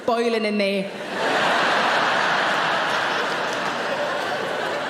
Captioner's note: audience laughing